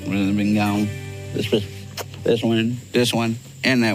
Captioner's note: lips smacking